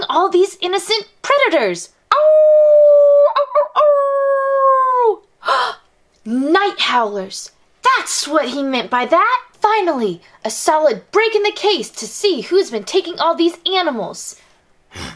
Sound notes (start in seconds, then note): 2.2 howling